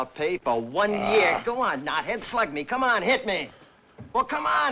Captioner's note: scoffs